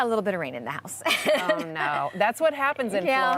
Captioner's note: laughs